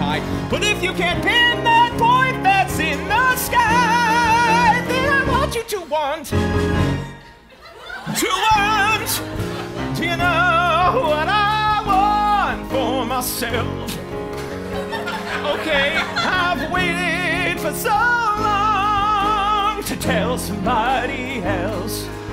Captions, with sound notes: But you if you can't pin that point that's in the sky! Then I want you to want! To want! Do you know what I want for myself? (Speaking) Okay? (Singing) I've waited for so long To tell somebody else.